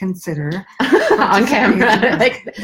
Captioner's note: laughs